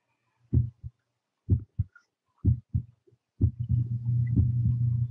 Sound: heartbeat pumping

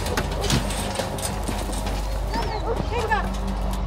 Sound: dog barking

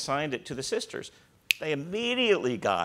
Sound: snaps fingers

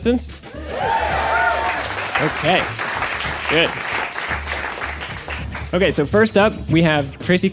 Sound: applause

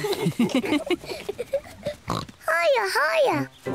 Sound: all laugh; snorts

